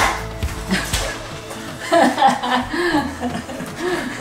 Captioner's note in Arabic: يضحك